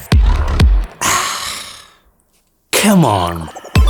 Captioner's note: sighs